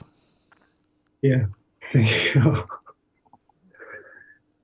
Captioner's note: laughs